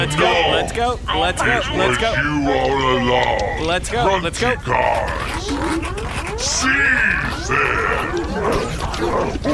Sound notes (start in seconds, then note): 5.4 guns warming up; 7.3 guards grunting, gunfire